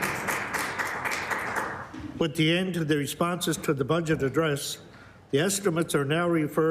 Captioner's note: applause